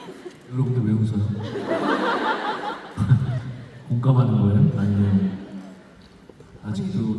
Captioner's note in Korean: 웃음